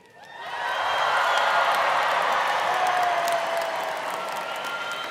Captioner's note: students cheering; students cheering and applauding